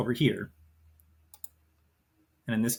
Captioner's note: mouse clicks